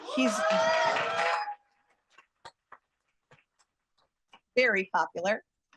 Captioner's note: cheers, applause